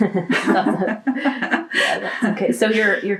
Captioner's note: laughter